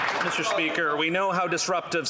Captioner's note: applause